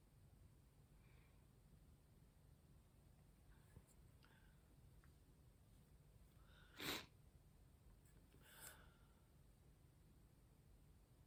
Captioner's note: sniffs